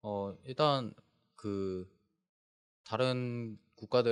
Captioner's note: speaking korean